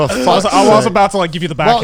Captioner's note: laughs